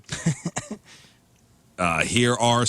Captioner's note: laughing